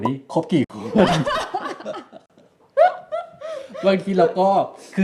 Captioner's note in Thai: เสียงหัวเราะ